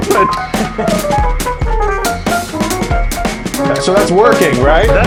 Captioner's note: chuckles